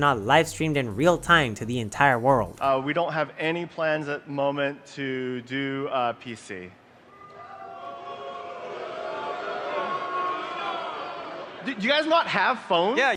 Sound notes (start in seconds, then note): 7.1 loud booing from crowd